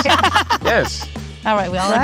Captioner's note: group laughing